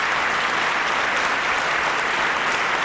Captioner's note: applause